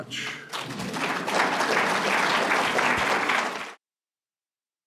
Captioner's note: applause